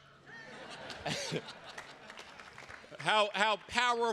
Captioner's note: attendees laughing